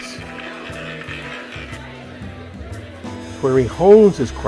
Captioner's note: roulette ball clacking